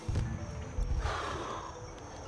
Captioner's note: sighs